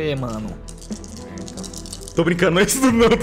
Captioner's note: sounds of many dice